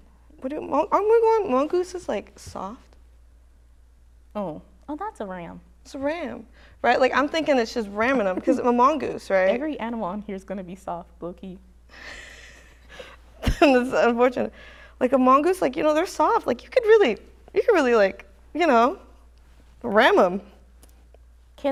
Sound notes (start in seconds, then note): 12.1 chuckles